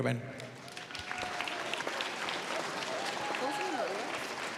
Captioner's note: cheers, applause